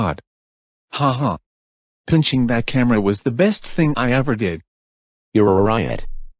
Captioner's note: chuckles